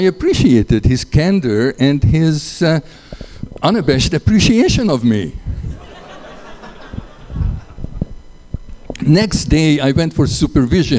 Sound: laughter

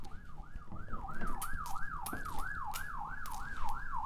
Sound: sirens playing

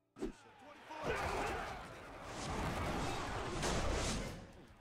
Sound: crashing and shouting

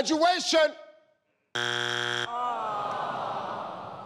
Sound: buzzer rings

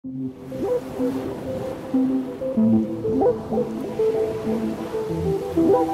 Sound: relaxing music; waves lap

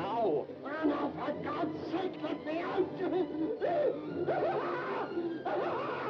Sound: screams

